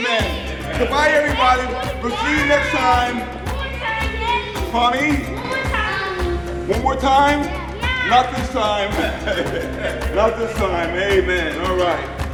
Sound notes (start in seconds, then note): 9.3 laughing